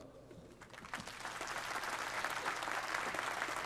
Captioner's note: applause